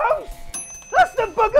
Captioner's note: ding